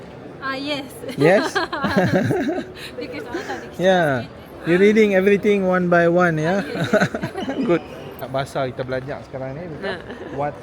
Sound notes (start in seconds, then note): 1.1 laugh; 3.0 speaking Japanese